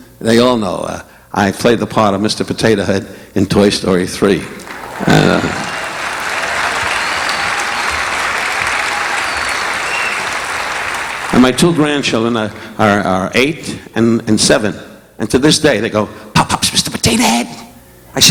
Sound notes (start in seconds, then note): 4.4 audience applauding; 4.5 audience whistling